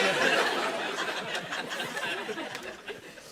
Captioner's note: laughter